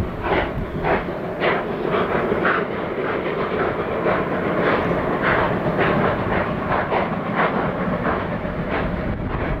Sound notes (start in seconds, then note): 0.1 hard chugging from rotary